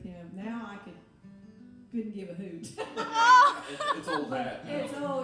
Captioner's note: laughing